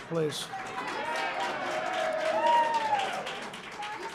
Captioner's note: applause